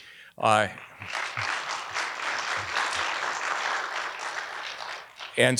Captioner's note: audience applauding